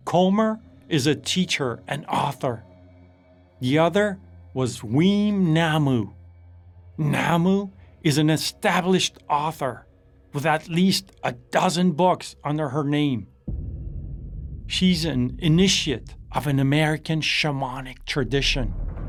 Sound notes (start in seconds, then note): 13.4 cinematic hit